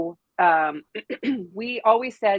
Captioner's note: clears throat